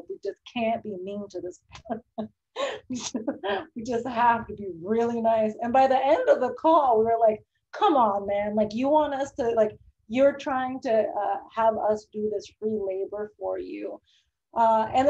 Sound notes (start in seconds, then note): 2.3 laughs